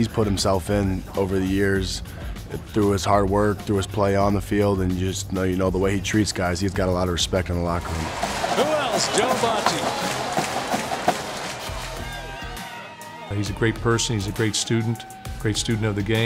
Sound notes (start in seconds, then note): 8.0 crowd cheering; 10.0 crowd clapping; 10.0 fanfare playing